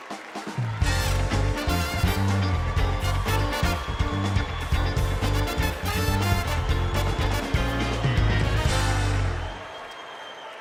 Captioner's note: cheers and applause